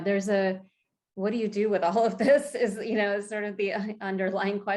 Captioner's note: chuckles